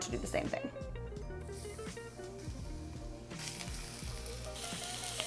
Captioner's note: mushrooms sizzling